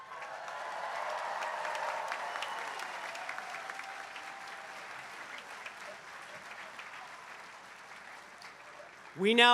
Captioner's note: applause